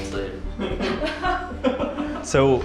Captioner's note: laughing